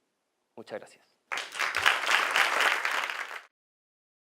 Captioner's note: applause